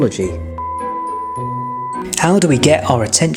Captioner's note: beep